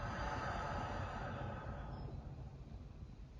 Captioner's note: exhales